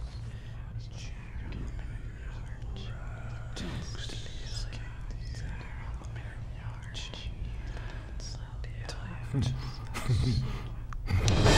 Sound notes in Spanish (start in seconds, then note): 1.9 susurros; 9.9 Coach se ríe